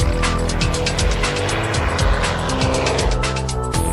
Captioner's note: engine sound from airplane